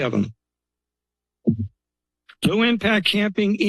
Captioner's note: pause